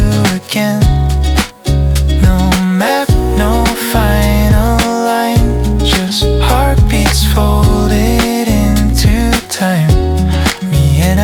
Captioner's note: applause